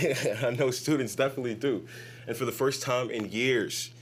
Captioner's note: laughs